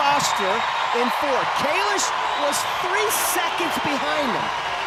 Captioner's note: audience cheering